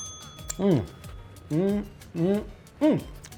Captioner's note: hums